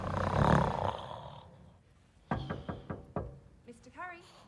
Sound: snores; knocking on door

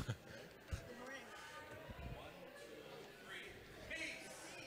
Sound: laughing

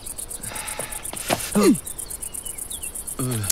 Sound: shutters clunk; people murmuring; woman tongue-clucking

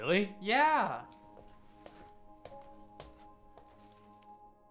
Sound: footsteps

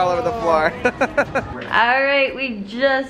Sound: laughing

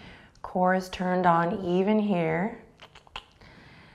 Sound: clicks tongue

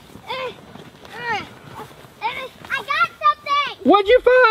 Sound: grunting

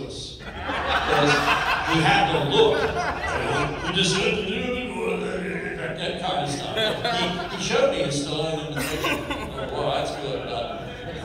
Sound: mumbles Stallonely

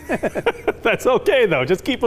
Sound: laughs

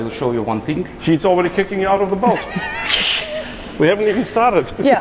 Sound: laughs

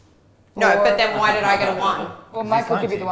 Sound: chuckling

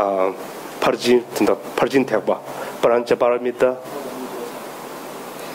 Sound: speaking in foreign language

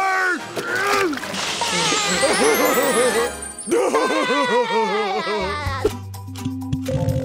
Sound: laughing

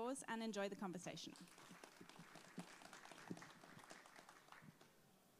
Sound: audience applauding

